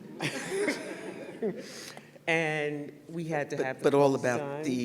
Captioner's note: laughter